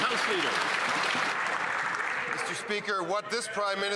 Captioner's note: some Applause